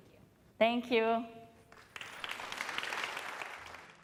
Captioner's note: applause